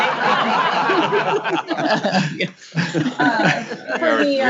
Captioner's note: laughter